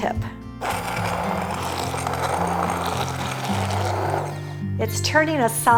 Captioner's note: immersion blender whirs